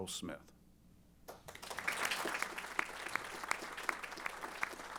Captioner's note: applause